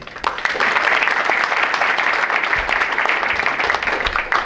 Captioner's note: audience applauds